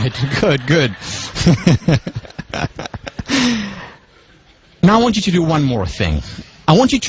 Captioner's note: laugh